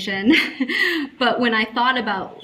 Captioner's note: laughing